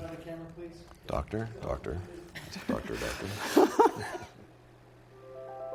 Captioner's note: laughs